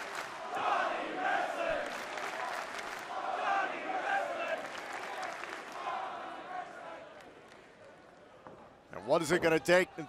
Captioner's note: fans chanting